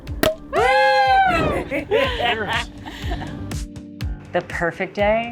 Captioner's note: upbeat music continues; everyone cheering